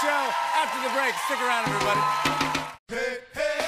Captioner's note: cheers and applause